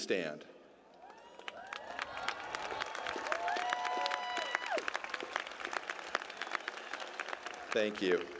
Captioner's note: applause